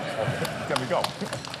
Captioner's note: applause